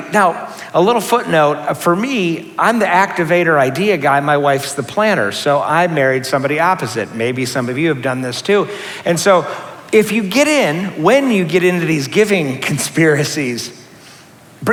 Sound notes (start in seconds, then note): none